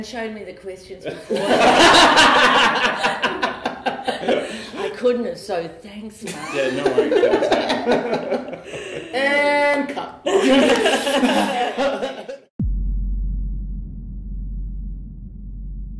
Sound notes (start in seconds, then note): 4.4 laughter; 10.2 laughter